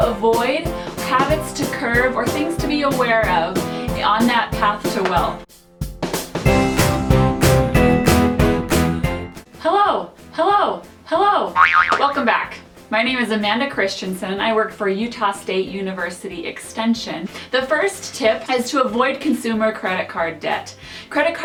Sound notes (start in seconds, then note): 11.5 boing